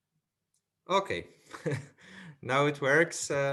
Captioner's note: laughs